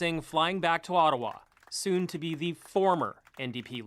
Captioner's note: cheers and Applause